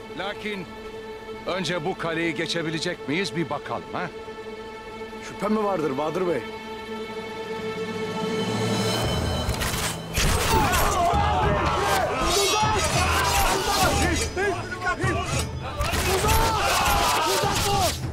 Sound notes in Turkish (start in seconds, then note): 10.1 Ok atma sesleri; 10.4 İnilti sesleri; 13.5 Bağrışma sesleri